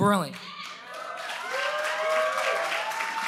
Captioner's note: applause